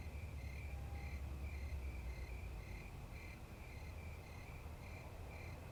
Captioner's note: crickets chirping